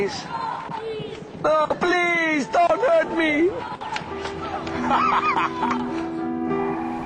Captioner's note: cackling